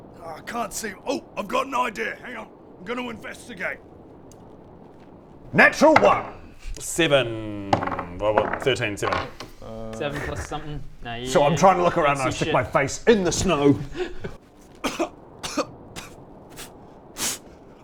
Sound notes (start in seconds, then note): 14.7 cough cough; 16.6 pfft pfffft